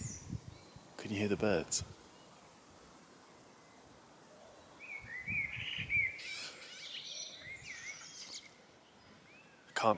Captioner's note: birds singing